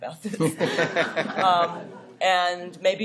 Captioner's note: laughter